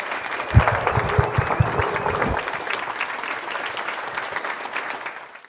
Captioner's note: audience applauding